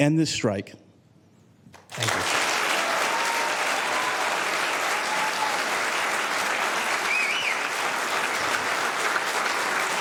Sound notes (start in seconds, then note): 5.9 applause